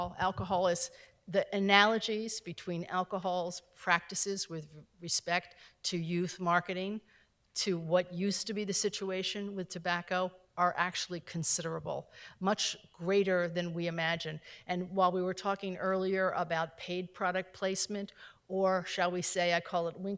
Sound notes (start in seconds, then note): none